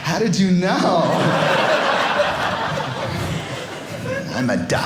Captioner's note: audience laughing